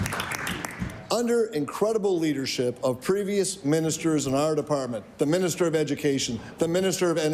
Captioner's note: applause